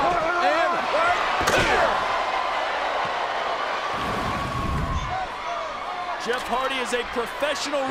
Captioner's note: applause